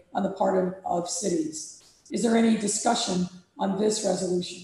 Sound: none

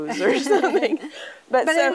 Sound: both giggling

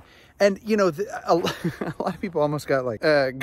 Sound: laughs

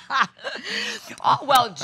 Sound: laughter

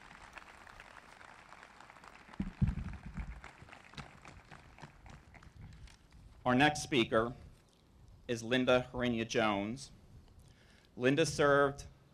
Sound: applause

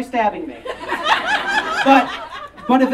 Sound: audience Laughing

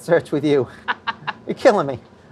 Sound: laughs

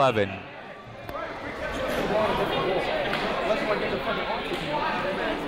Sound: people talking in the crowd

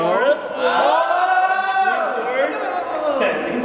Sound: whooping

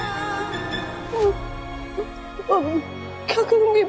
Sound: Jyoti stammering

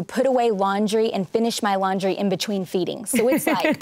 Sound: laughs

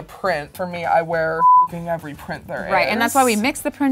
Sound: beep

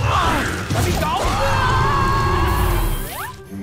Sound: screaming

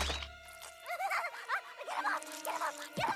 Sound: screaming

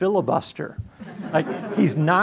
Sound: audience laughing

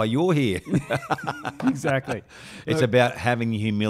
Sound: chuckling

